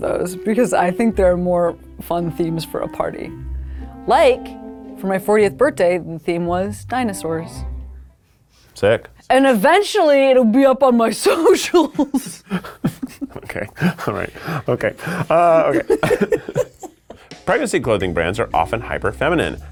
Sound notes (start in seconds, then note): 11.8 laughs; 15.7 people laughing